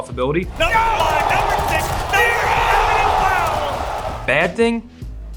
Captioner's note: cheering